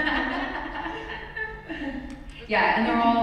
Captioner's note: laughs